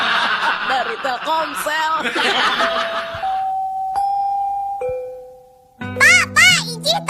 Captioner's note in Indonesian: tertawa; lonceng